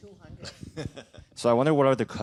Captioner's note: laughter